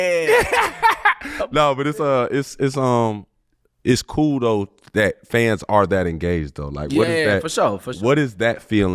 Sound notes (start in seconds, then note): 0.1 laughing